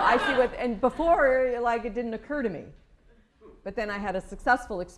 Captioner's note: laughter